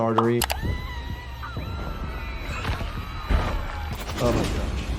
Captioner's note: robots screaming